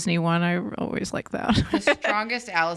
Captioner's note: laughs